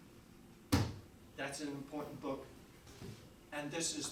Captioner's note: slams book